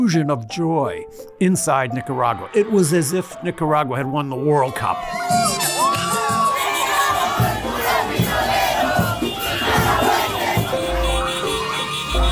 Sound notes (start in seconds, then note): 5.0 loud cheering